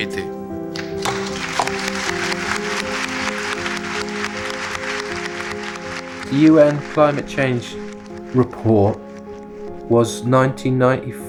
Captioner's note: applause